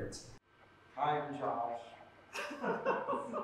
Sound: laughter

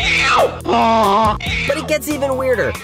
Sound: honking

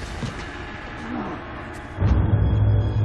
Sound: groans

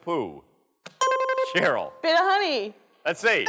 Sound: dings

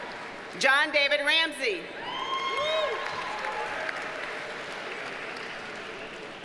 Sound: audience cheers and applauds

